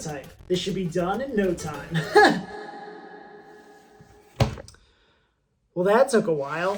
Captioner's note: laughs